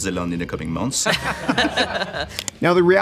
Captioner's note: laughing